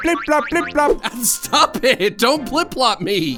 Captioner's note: laughing